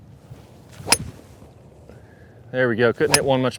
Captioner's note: club hitting ball